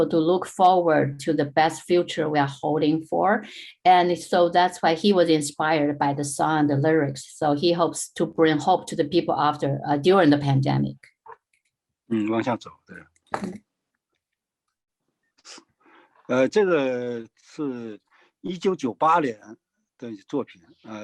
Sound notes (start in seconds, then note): 12.8 speaking in foreign language